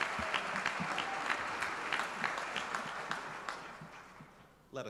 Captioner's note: applause